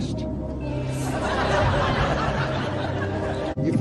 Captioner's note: laughter